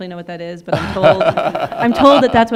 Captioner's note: laughing